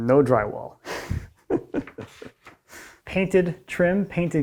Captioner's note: laughing